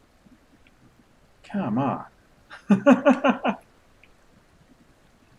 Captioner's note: laughs